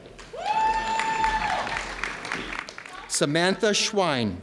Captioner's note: audience cheering